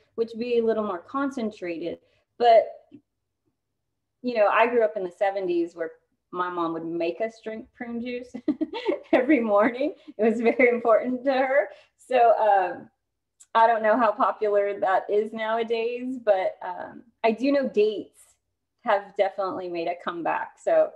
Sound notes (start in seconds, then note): 8.3 laughter